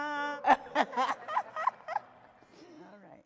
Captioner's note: woman laughing